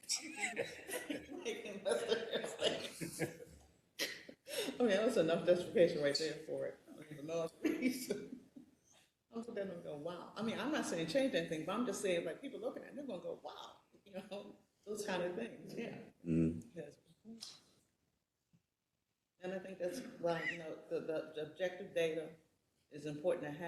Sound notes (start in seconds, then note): 0.1 laugh; 9.4 laugh